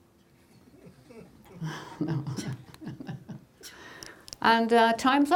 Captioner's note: laughing